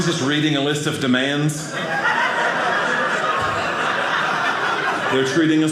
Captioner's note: audience laughing